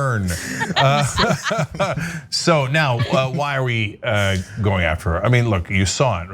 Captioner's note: laugh